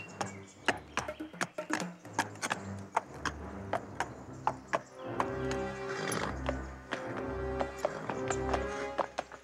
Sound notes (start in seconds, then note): 5.5 horse snorting